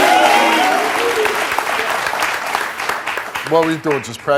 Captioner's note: audience clapping